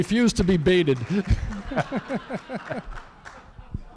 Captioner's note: laughter